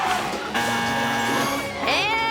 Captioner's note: buzzer buzzes